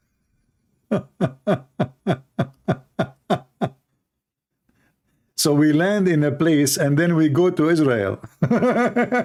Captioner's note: Ketawa